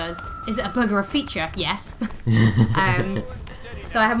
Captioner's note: laughter